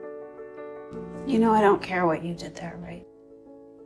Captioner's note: voiceover